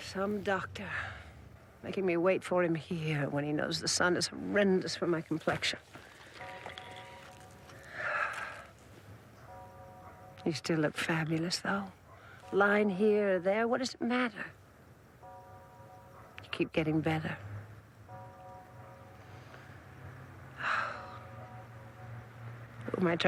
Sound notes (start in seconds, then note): 7.8 Roslyn sighs; 18.0 echoing church bell ringing; 20.6 Roslyn sighs